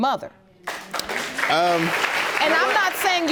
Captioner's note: audience applauding